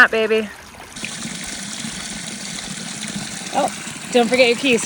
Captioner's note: water splashing